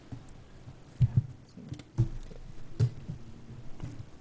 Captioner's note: whispers